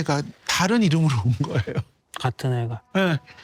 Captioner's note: chuckling